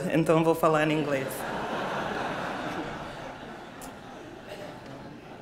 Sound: laughter

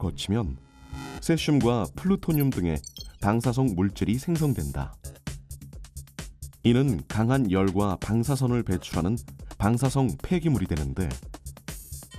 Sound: voiceover

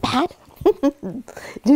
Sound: laughs

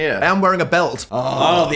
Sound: groans

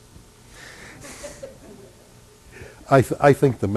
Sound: laughter

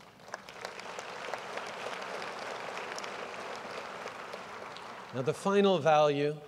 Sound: applause

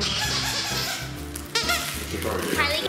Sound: toy squeaking

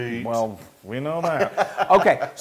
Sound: laugh

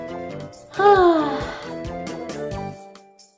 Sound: Raven sighs dreamily

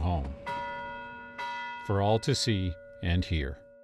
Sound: bell ringing

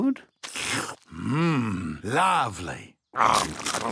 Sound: slurps

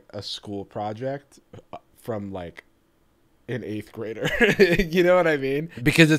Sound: laughing

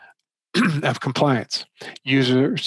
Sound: clears throat

